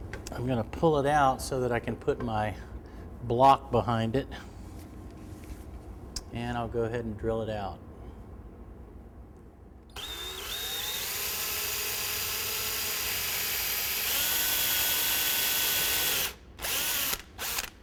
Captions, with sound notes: I'm going to pull it out so that I can put my block behind it. And I'll go ahead and drill it out. [drill whirs and screeches]